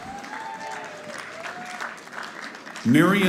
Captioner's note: audience applauding